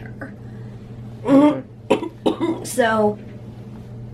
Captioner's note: clears throat and coughs